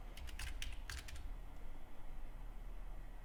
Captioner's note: typing